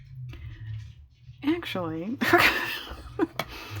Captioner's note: laughs